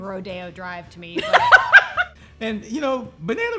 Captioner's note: laughter